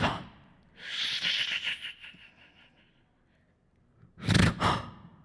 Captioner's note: beatboxing